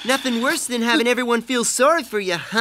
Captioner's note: sobbing